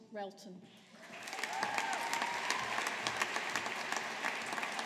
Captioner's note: audience applauding